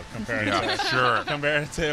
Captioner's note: laughter